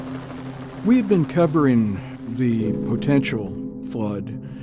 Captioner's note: rain pouring